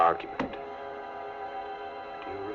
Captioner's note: fist thumping